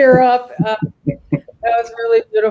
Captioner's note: chuckle